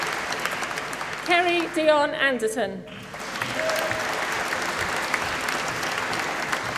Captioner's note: applause